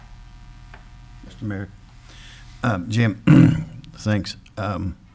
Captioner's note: clears throat